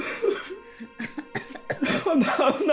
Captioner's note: Alan crying; Carrie coughing